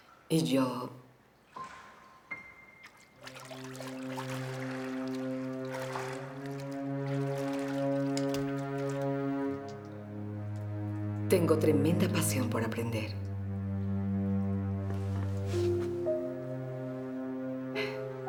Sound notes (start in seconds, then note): 3.8 water splashing; 14.9 ominous music